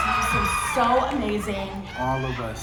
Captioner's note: audience cheering